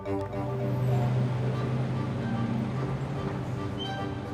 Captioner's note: traffic